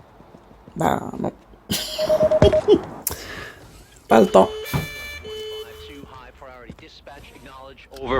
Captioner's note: laughs